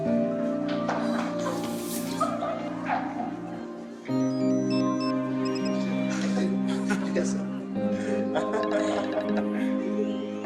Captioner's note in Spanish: Risas